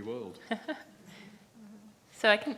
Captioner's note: chuckles